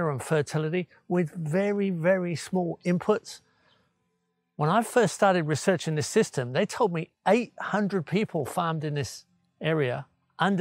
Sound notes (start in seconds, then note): none